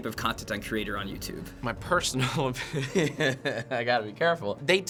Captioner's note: chuckling